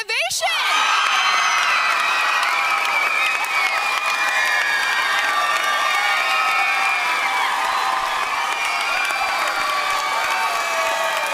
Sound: applause

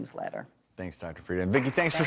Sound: applause

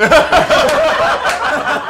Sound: laughter

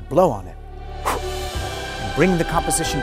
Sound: air whooshing

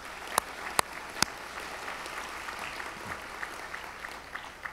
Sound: audience applauds

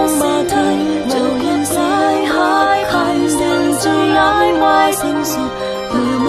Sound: the bells signaling the end ring

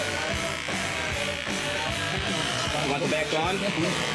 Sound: razor buzzing

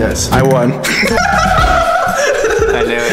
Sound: laughs

